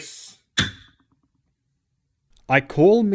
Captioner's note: gavel